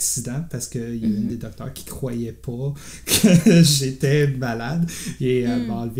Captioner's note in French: rires